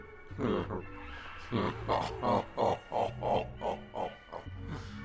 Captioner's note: evil laugh